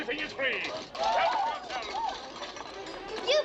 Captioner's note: all shouting